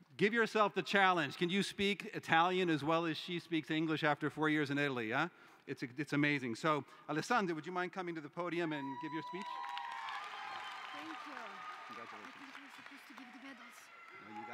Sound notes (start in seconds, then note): 8.8 cheering